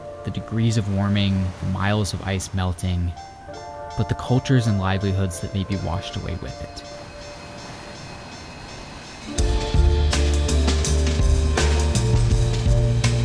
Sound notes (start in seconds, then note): 5.7 bell clanging; 9.5 soft instrumental music